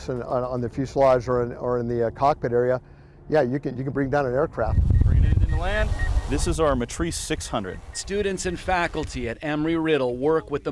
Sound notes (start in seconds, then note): 4.6 drone beeping